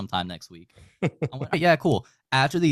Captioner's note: laughing